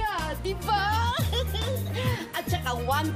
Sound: laughs

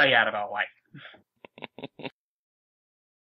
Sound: giggle

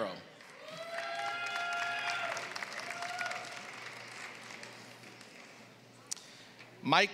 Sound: applause

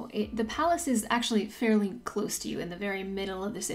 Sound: small voice

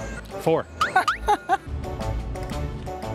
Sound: laughs

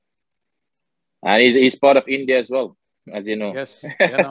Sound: both laugh; laughs

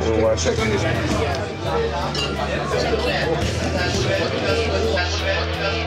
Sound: indistinct customer chatter

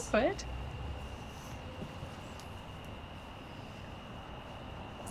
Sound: cicadas chirping

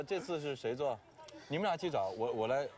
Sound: breath heavily

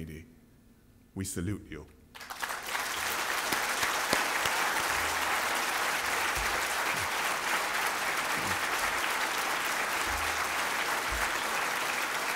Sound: applause

